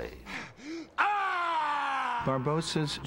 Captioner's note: screaming